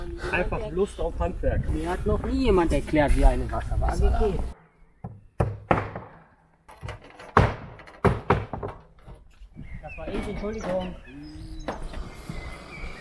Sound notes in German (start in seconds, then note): 6.6 klappern